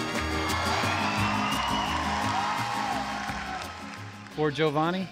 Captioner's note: audience clapping